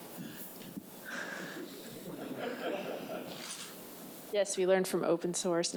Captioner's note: people laughing